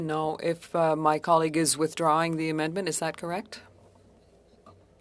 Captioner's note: speaking French